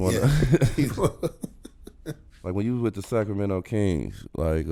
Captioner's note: laughing